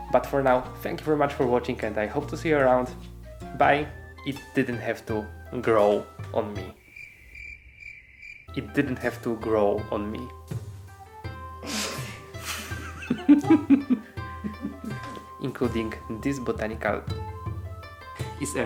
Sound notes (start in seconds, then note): 6.7 crickets chirping; 12.4 laughing